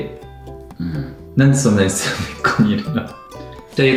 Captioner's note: laughs